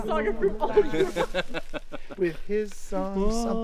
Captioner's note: people laughing